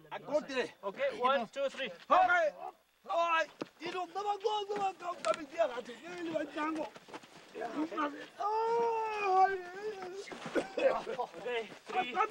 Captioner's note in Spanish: murmullos